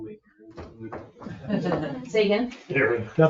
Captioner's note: people chuckle